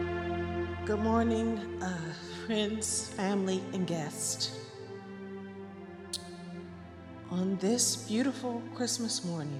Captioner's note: none